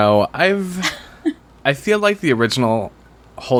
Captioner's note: laughs